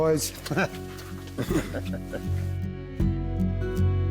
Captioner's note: both chuckling; gentle country music